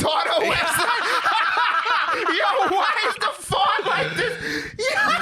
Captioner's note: both laughing